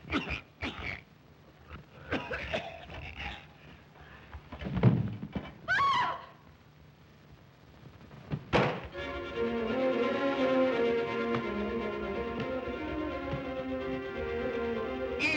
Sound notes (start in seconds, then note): 0.0 Zaroff coughs; 4.6 thump; 8.4 knife thuds; 8.9 suspenseful music